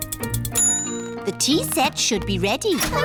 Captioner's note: bell dings